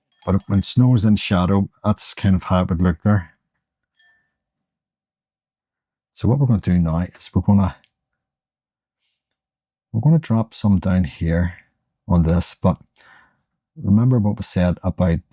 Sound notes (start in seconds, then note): 5.9 silence